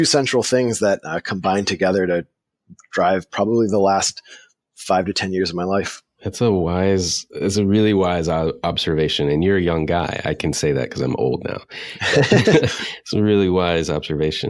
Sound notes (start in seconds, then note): 11.7 laughing